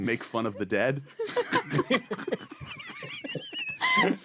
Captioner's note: laughing